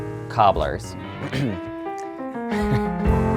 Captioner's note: clears throat; laughs